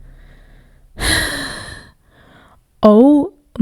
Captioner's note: sighs